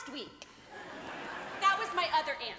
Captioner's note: audience laughing